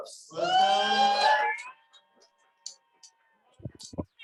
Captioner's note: audience cheering